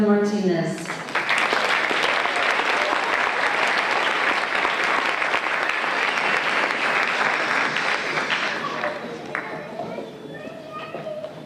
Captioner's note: applause